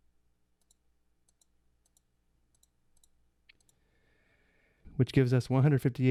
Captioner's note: buttons clicking